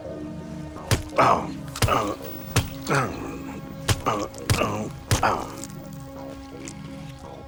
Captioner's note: tusk thumps; William grunting